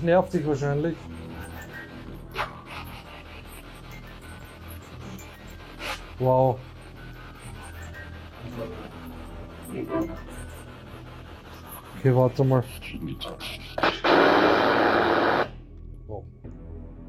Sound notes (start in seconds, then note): 1.4 musicbox sounds; 9.4 musicbox sounds; 13.8 radio noise from the spirit box